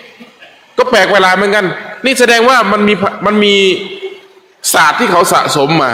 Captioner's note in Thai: เสียงหัวเราะ